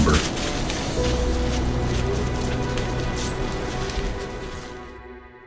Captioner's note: sound of walking in leaves, music fades